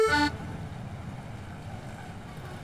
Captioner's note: Traffic sound